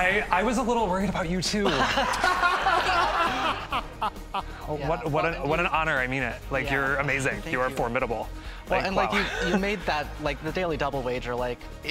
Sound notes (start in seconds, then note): 1.6 all laughing